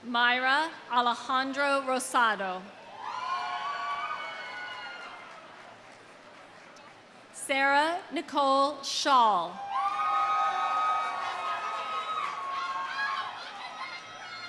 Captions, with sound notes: Mayra Alejandra Rosado. (audience cheering) (audience applauds) Sarah Nicole Schaal. (audience cheering)